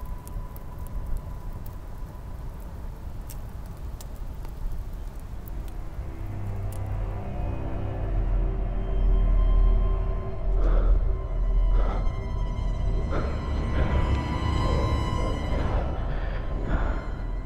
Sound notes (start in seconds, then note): 10.3 heavy breathing